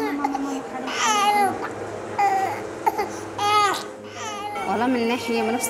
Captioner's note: crying